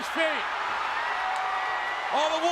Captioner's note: crowd cheering